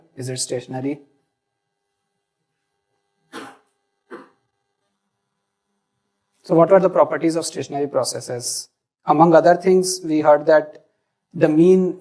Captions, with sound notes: Is it stationary? [COUGH] So what are the properties of stationary processes? Among other things, we heard that the mean